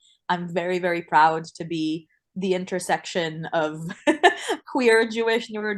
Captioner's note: laughs